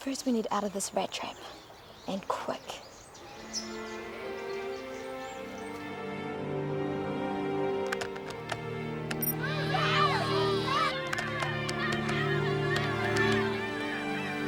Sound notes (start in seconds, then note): 4.1 soft music; 9.3 scattered yelling